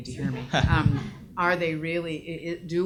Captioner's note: audience laughs